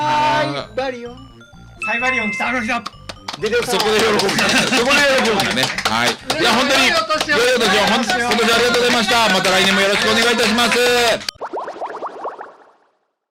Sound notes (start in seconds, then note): 4.0 laughs